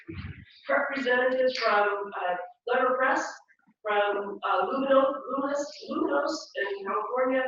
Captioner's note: laugh